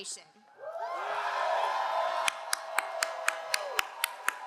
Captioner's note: all cheering